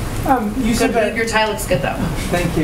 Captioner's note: laughs